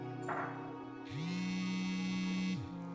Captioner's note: phone vibrates